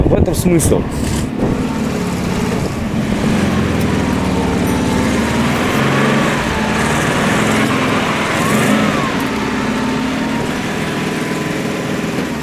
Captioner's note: running engine